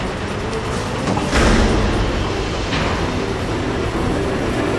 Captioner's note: head clanging